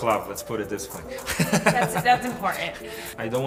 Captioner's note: laughs